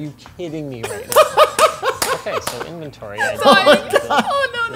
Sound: laughs

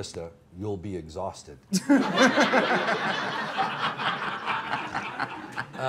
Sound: laughs

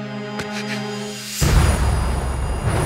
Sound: booming

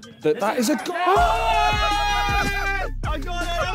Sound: all cheering

